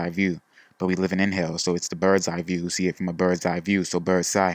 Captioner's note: inhale